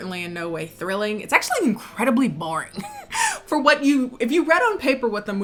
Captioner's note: laughs